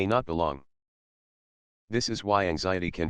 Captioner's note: pause